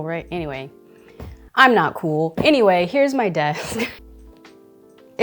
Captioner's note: chuckling